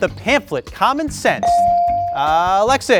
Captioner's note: bell sounding